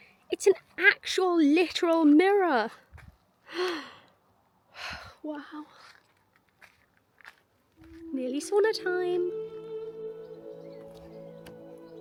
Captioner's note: sighs and gasps